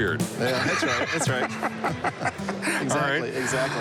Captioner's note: laughter